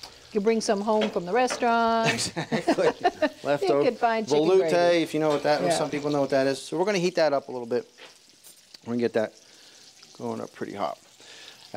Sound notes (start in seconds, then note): 2.0 both laugh